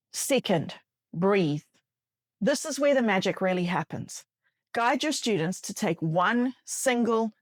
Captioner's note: breathe